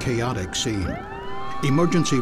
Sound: sound of sirens

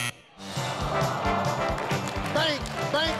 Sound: buzzing sound; crowd sighs; upbeat music plays

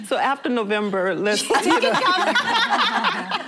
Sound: laughter

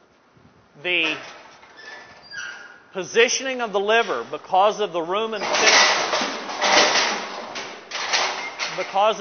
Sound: cow slamming chute

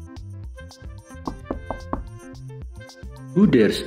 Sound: knock! Knock! Knock!

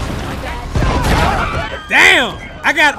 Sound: water splashing; people screaming

